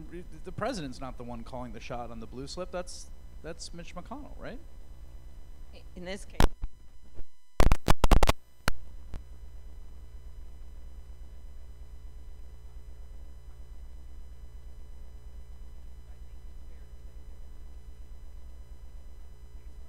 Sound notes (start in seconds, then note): none